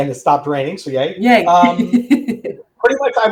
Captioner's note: both laughing